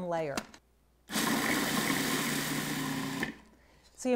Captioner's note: food processor whirring